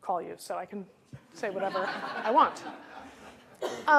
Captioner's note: laughter